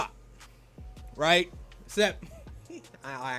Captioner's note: laughs